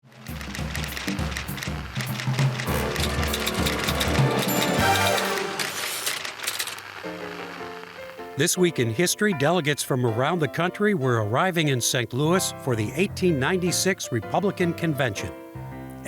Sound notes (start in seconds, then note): 0.2 active music; 0.3 typewriter clicking; 7.1 bright music